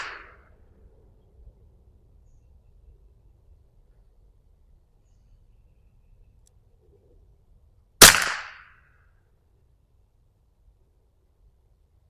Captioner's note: gunshot